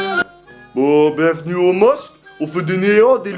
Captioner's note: northern accent, voiceover